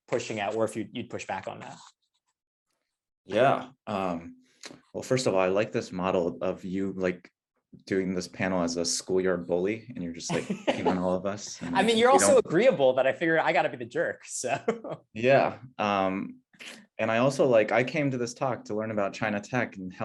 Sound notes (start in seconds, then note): 10.3 laughing; 14.6 laughs